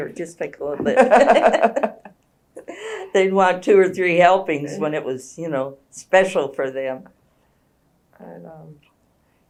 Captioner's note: laughter